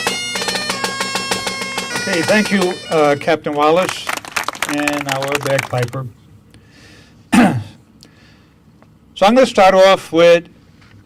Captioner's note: clears Throat